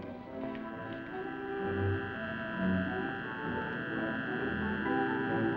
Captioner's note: supersonic detector buzzing